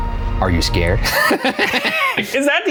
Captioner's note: laughing